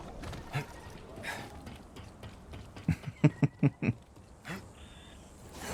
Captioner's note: laughs